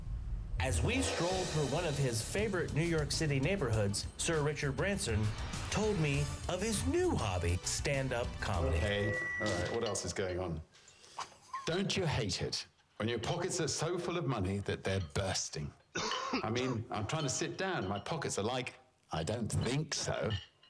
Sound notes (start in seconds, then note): 15.9 man coughs